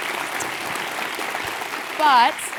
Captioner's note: applause